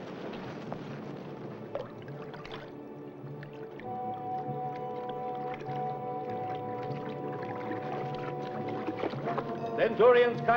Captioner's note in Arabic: موسيقى متوترة; يتناثر الماء برفق